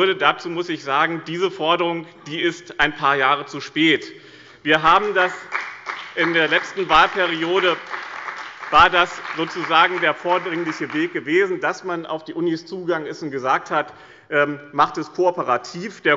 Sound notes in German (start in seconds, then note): 4.8 Beifall bei dem BÜNDNIS 90/ DIE GRÜNEN und der CDU